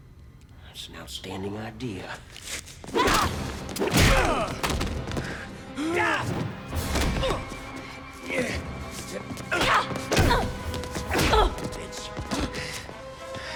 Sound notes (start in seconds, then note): 2.9 blows thudding; 4.1 tense music; 6.4 Gammon and Dalton grunting; 10.1 Kelly grunts; 11.4 punch thuds